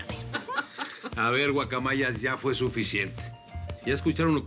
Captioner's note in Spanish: Risas